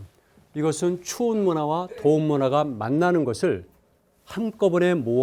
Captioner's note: speaking in Korean